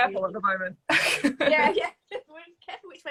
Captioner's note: laughs